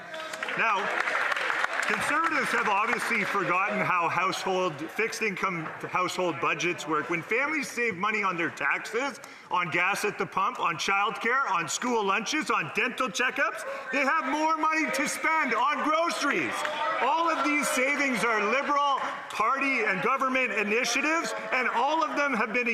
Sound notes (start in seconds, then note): 5.6 some Applause